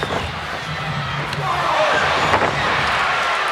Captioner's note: foot slaps; Razor Ramon thuds